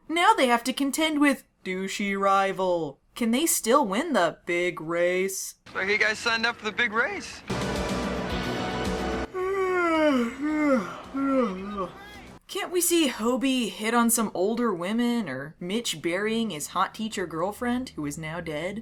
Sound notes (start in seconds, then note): 7.5 dramatic music; 9.2 yawning